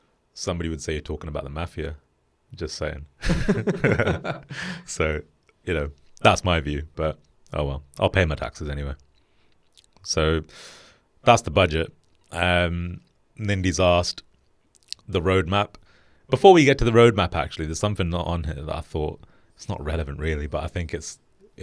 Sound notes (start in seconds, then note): 3.2 laughing together